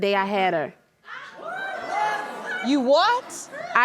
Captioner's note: crowd gasp